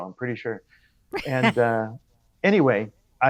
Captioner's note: laughs